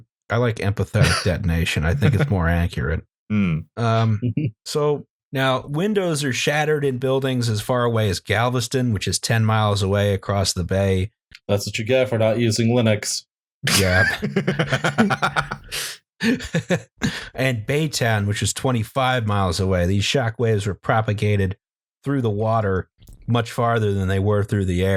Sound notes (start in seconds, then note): 13.6 laughter